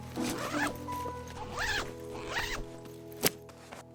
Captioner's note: bag unzipping